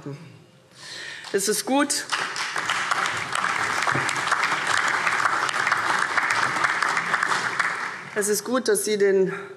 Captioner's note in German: Beifall CDU, BÜNDNIS 90/DIE GRÜNEN und SPD